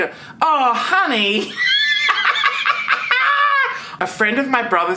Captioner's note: laughs